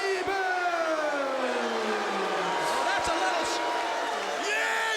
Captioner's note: crowd chatter